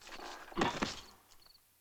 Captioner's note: grunts